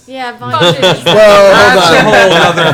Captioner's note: laughs